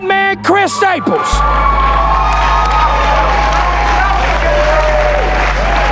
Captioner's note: spectators applauding